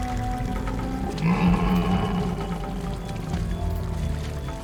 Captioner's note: Rutiodon groaning